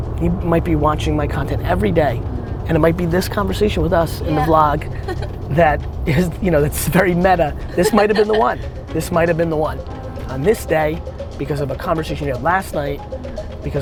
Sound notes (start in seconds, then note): 4.2 woman laughs